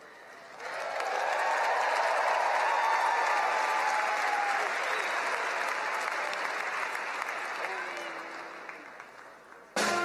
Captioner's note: applause